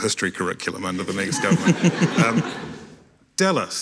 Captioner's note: audience laughing